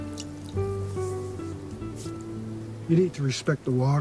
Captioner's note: water trickling; hands rubbing